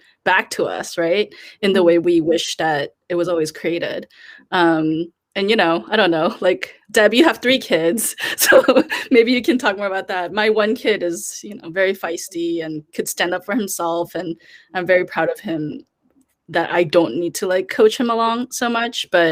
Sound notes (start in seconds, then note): 8.2 chuckles